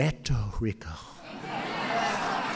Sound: applause

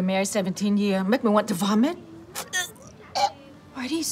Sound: gags

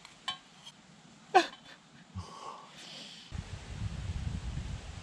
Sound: crying

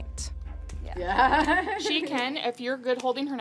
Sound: laughing

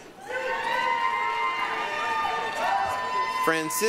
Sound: applause, cheering

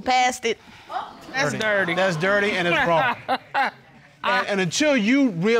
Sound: laughs

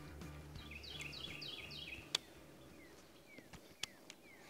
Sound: birds chirping

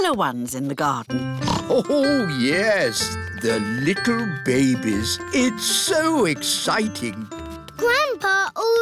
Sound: snorts

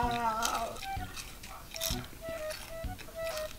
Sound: chewing

